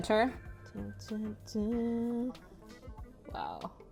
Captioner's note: humming